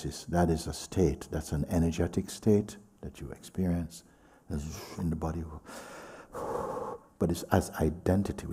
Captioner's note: exhales